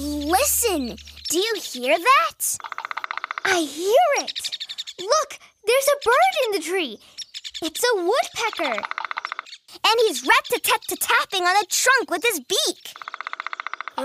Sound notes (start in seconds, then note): 0.0 woodpecker pecking; 4.2 bird chirping; 8.1 woodpecker pecking; 12.8 woodpecker pecking